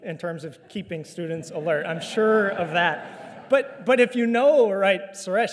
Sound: audience laughter

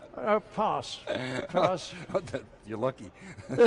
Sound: laughs

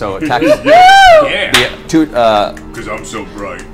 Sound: all cheer

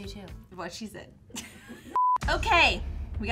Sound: laughs

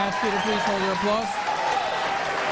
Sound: applause

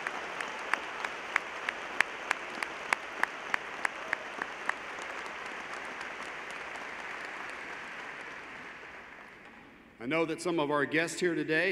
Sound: applause

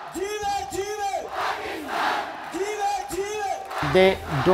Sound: crowd; chanting; shouts in foreign language

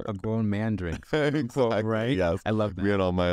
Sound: laughs

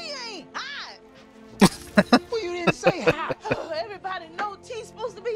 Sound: laughing

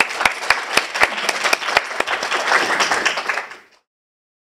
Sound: audience applauding

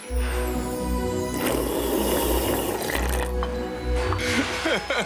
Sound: orchestral music; slurping; laughing

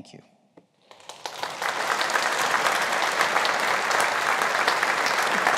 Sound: audience applauding

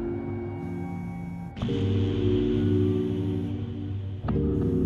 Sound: phone vibrating

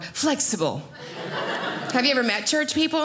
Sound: audience laughing

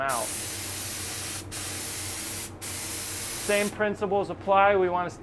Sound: paint spraying

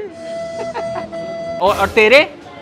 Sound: laughing

